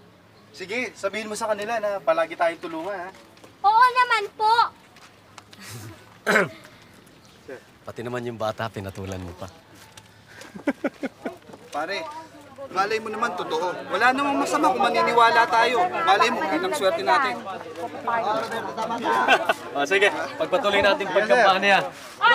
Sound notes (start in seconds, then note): 10.3 laughs; 18.0 indistinct chattering; 19.0 laughs